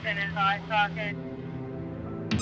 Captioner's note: intense music; beeping